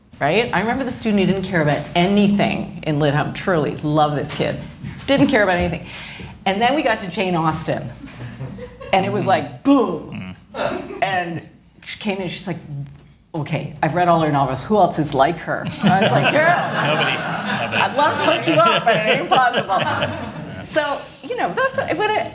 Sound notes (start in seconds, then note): 15.6 laughter